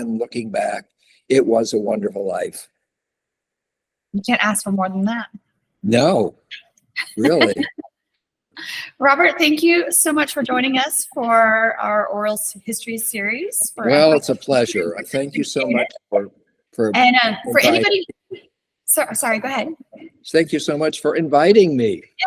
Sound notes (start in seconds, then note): 7.0 laughs